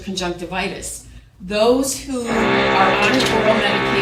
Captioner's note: tool motor whirring